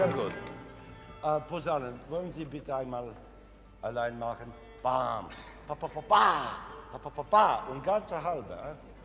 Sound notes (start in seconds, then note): 0.0 orchestra stopping; 1.7 speaking foreign language